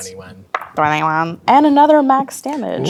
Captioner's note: dice rolling